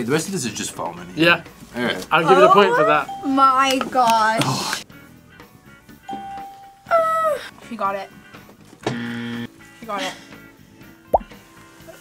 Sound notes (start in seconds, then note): 6.1 bell rings; 8.9 buzzer rings